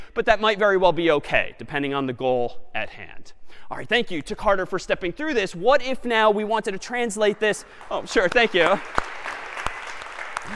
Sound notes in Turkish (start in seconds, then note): 7.5 alkiş